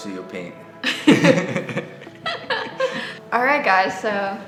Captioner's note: both laugh